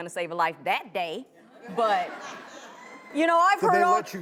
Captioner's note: audience laughs